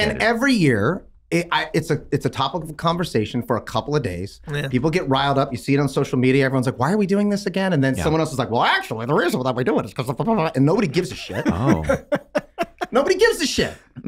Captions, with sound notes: - And every year, it's a topic of conversation for a couple of days. People get riled up, you see it on social media, everyone's like, "why are we doing this again?" And then someone else is like, "Well actually, the reason that we're doing this is 'cause blah blah blah, and nobody gives a shit. - Oh. (Charlie laughing) - Nobody gives a shit.